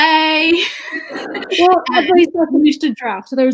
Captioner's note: laughing